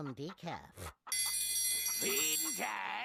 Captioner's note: bell ringing